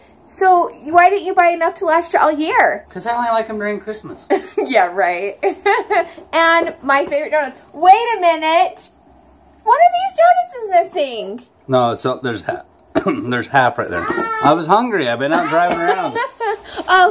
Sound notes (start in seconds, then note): 5.3 laughing; 15.3 laughing